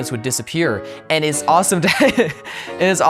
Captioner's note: laughs